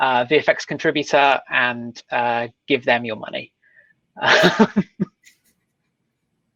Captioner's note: laughing